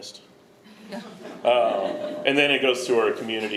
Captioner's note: audience laughing